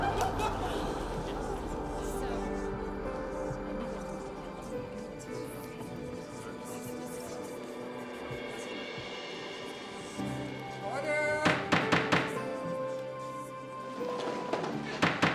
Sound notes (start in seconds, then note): 0.0 excited murmuring; 11.3 gavel banging